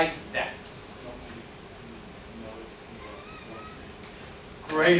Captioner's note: murmurs